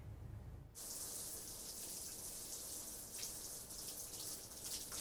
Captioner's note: water splashing